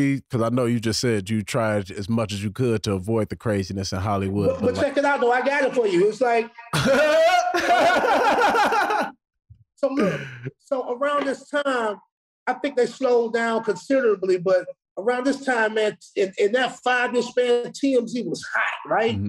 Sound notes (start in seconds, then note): 6.6 laughing